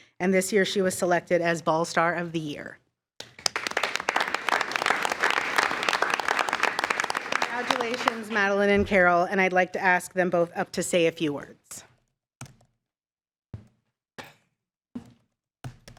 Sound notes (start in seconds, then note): 3.2 attendees applauding